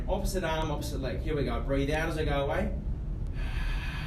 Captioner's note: exhales